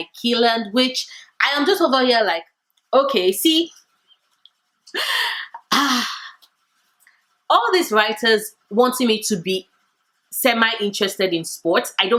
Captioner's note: sigh